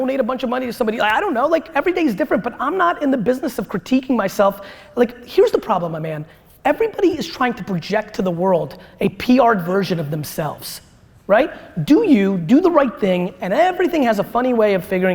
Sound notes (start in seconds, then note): none